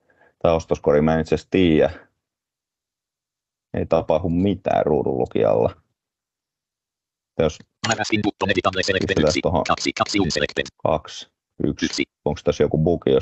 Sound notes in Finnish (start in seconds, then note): 7.3 ruudunlukijan puhetta